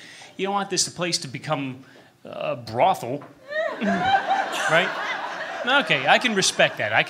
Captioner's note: laughter